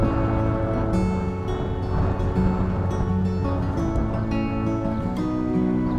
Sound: sound of the wind

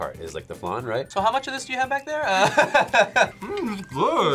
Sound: laughs

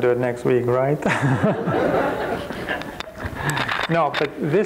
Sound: crowd chuckles

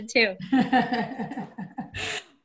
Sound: laughter

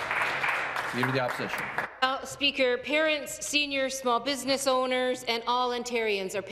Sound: some Applause

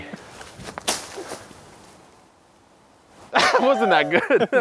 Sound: machete whips

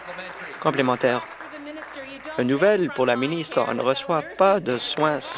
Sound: applause

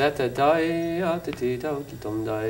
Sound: humming tune

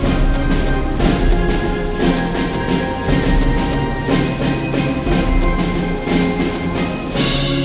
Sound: A couple more banging

